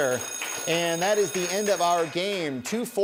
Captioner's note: bell ringing; applause